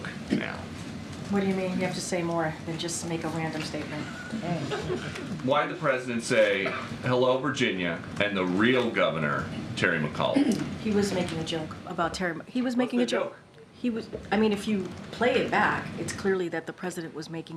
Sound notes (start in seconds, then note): 4.6 laughter